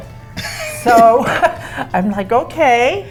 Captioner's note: laughs